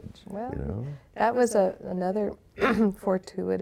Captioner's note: clearing throat